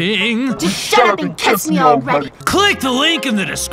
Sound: male and normal voice

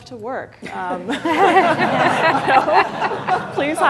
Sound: laughter

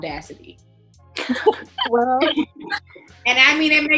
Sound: laughing

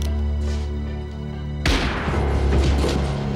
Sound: gun shot

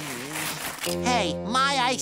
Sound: groaning

